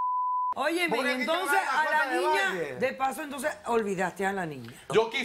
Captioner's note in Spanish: Bip